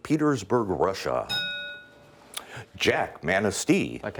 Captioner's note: ding